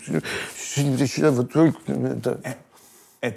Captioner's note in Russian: говорит сонно и неразборчиво